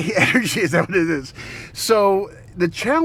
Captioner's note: laughs